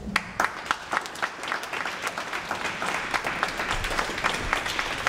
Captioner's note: audience applauds